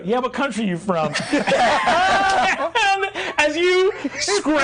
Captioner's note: all laughing